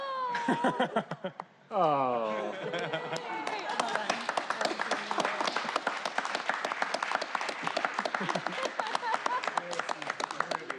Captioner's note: applause